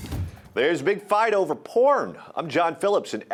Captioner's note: voiceover